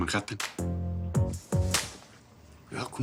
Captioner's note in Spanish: Palmada